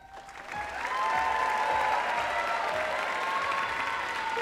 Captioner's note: audience cheering